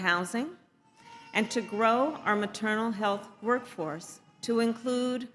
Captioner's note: baby cries